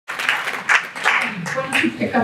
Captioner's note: clapping